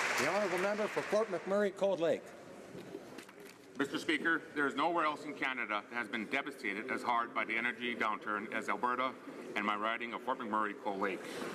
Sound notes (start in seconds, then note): 1.8 applause